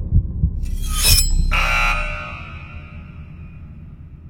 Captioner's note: buzzer